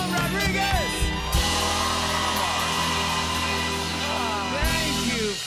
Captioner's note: cheers and applause